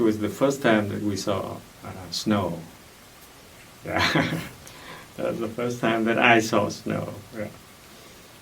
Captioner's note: laughs